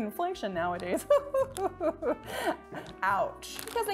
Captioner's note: chuckling